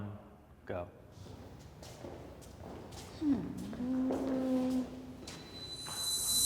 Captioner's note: footsteps scattering; wind screeches